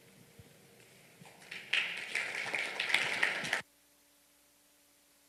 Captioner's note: applause